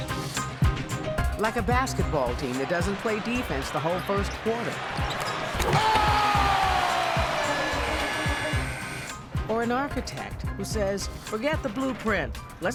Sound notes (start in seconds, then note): 0.0 upbeat music; 6.8 audience cheering